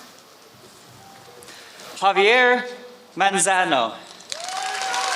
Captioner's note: applause